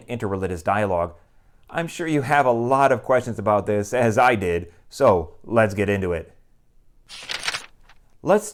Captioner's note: page turning